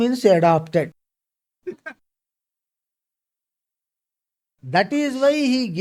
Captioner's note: laughs